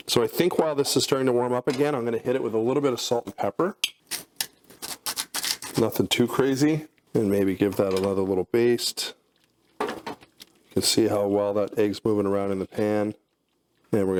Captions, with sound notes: So I think while this is starting to warm up again I'm gonna hit it with a little bit of salt and pepper, (salt grinding) (pepper grinding) nothing too crazy. And maybe give that a another little baste. Let's see how well that eggs moving around in the pan